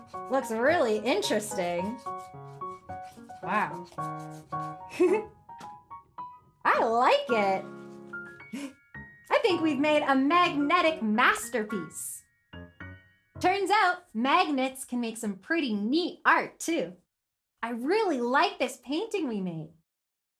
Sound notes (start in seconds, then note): 4.9 giggles